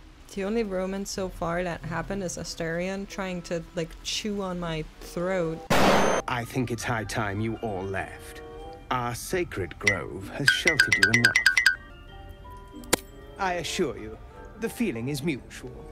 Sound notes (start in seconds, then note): 10.4 blinking sounds